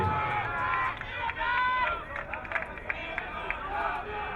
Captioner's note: crowd cheering